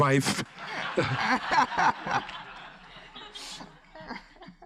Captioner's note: everyone laughs